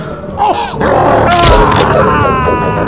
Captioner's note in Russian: укус и треск костей